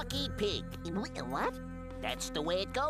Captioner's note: stutters